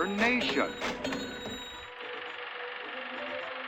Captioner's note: cash register ka-chings